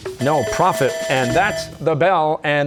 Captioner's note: bell ringing